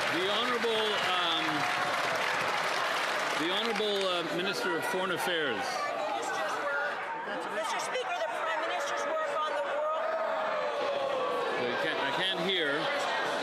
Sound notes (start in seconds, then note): 6.0 some Applause